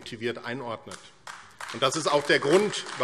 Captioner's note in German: Beifall AfD